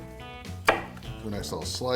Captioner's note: cutting